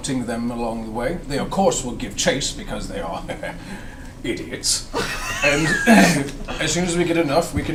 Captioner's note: chuckles